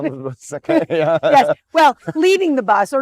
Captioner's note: laughing